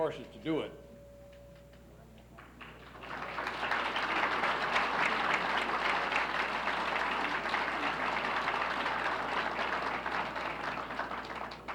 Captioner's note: applauses